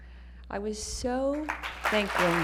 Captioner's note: applause